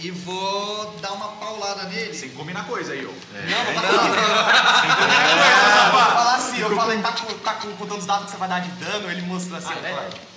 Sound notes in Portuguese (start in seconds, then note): 3.4 Risadas